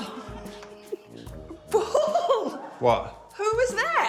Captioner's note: laughs